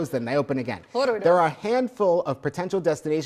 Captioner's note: mumbles